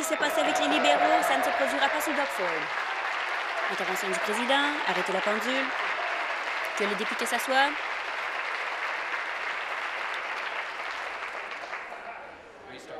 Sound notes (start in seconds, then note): 4.4 applause